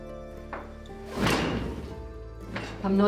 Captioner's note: loom clanking